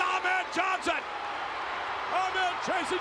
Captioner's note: spectators cheering